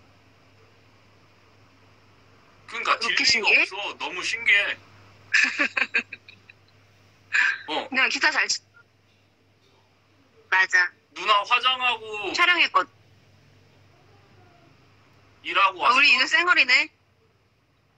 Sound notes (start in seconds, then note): 5.3 laughs funny